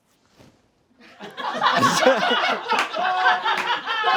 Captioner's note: friends laugh